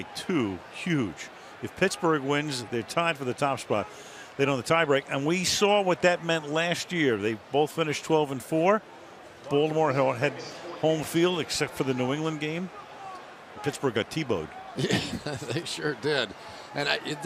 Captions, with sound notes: they're up by 2, huge. If Pittsburgh wins, they're tied for the top spot. They know the tiebreak. And we saw what that meant last year. They both finished 12 and 4. Baltimore had home field except for the New England game. Pittsburgh got TiVoed. [chuckles] They sure did.